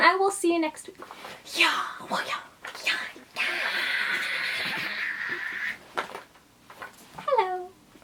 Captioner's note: fight noises